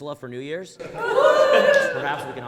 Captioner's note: audience laughs